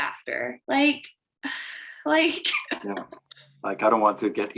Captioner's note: laughs